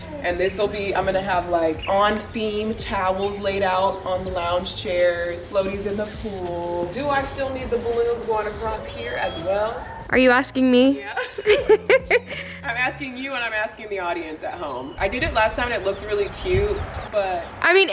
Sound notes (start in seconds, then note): 11.0 laughs